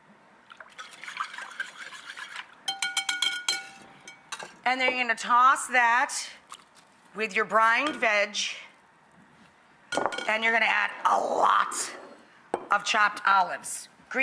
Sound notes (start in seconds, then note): 0.8 light whisking; 2.7 whisk tapping